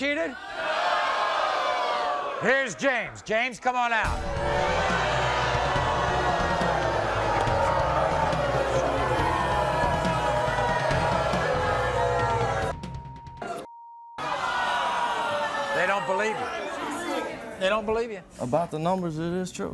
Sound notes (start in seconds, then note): 4.1 audience booing